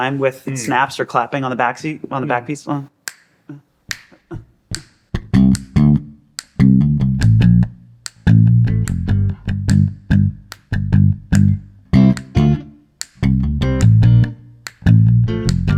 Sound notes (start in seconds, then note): 3.6 fingers snapping; 5.7 upbeat bass music; 12.3 upbeat guitar music